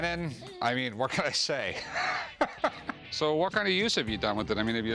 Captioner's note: laughs